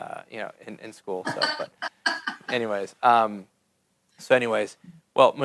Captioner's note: laughs